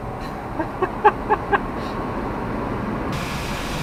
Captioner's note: laughing